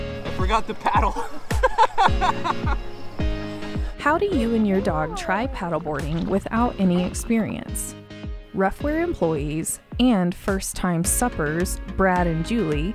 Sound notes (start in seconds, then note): 1.0 laughing